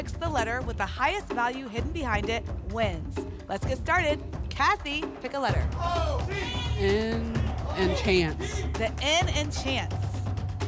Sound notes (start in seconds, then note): 5.8 audience shouting letters